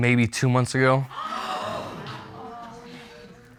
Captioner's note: audience gasping